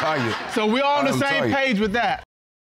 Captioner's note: audience laughing